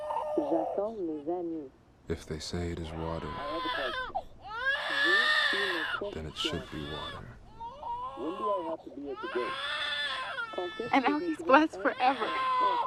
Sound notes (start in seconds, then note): 0.2 french playback